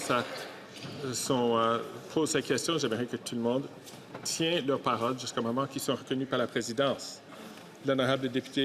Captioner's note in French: voix de l'interprète